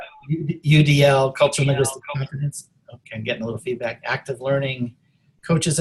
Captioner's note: audio feedback